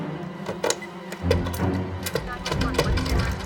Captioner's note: beeping